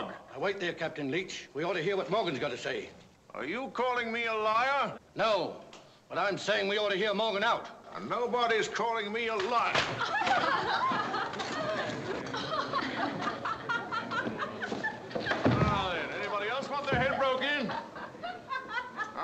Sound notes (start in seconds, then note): 9.8 laughing; 11.5 murmuring